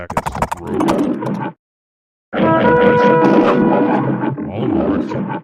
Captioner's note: spspeaking Mandarin n